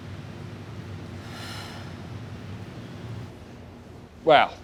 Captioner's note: heavy breathing